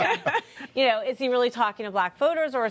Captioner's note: laughter